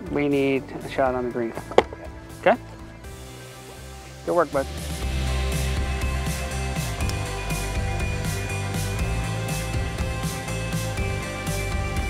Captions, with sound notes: We need a shot on the green, okay? Good work buddy. (golf club wack)